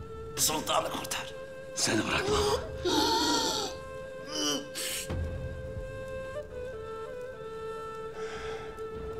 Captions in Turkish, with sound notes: Sultanı kurtar. Seni bırakmam. (Hırıltı sesi)